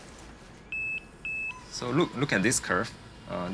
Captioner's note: device beeps